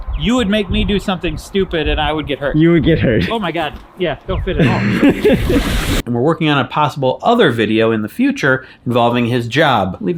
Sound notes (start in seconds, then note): 4.5 laughing